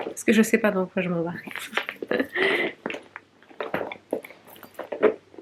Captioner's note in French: rires